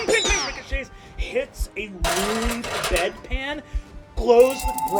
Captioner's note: sound of metal clanging